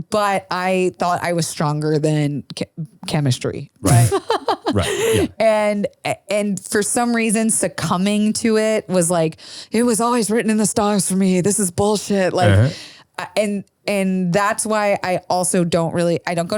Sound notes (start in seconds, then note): 3.8 laughs